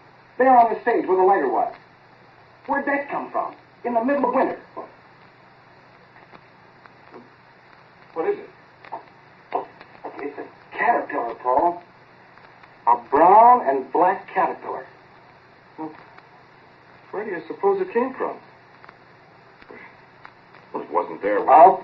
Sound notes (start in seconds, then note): 9.5 footsteps